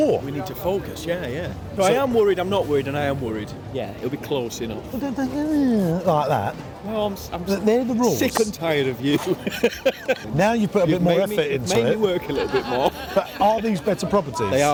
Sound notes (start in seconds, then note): 9.1 laughing; 12.2 laughs